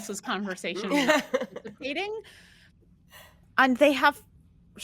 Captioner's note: all laughing